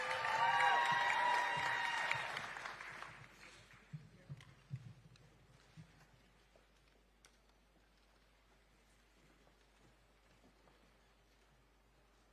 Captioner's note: applause